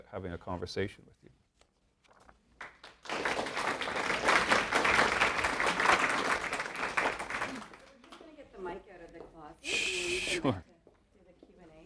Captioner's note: applause, Inaudible comments